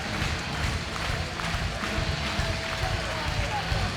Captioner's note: audience cheering